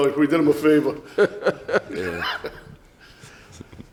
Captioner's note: laughs